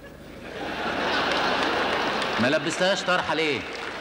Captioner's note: audience laughter